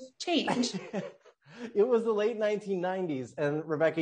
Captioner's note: laughs